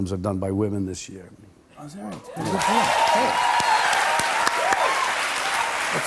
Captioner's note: cheers and applause